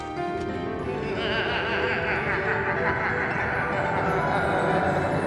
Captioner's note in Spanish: risa malvada